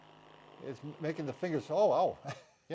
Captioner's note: machine whirring